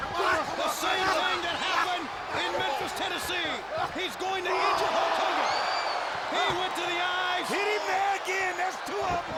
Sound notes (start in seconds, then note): 4.8 crowd gasping